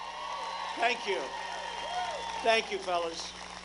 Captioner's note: applause